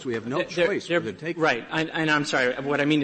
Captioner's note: laughter